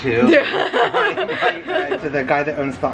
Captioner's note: laughs